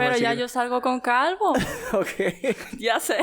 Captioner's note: laughs